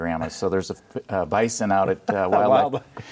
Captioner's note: laughing